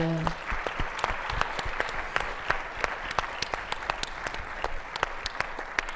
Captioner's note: attendees applauding